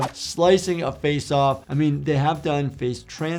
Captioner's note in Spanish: none